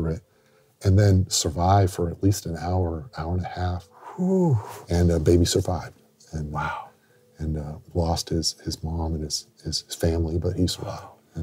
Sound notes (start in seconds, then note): 4.0 exhales